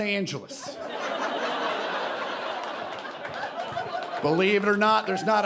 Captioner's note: audience laughing